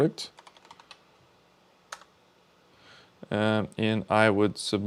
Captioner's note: keyboard clicking